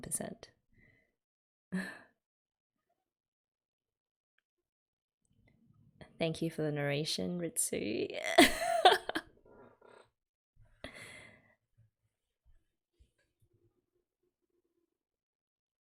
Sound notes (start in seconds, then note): 8.3 laughs